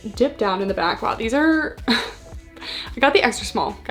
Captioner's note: scoffs